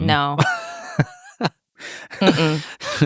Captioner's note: laughing